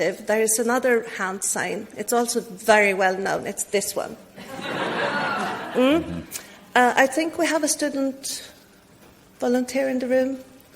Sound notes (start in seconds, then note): 4.4 audience laughs